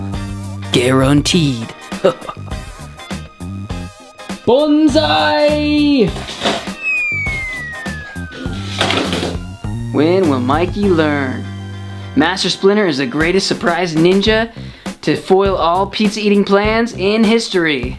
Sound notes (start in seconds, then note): 2.0 chuckling; 6.1 sliding sound, whack!